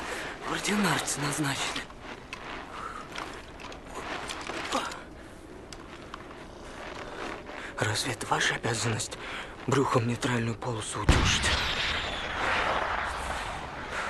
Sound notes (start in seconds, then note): 1.9 crunch of snow; 11.0 rocket firing